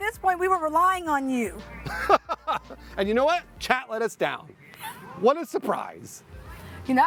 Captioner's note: laughter